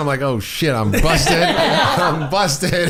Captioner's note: laughing